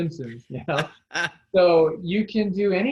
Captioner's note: laughs